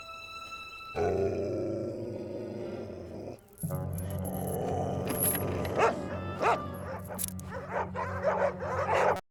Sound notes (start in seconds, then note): 1.0 dogs growling; 4.6 barking